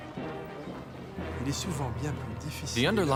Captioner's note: continues in French